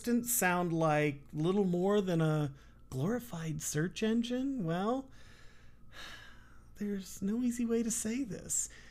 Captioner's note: sigh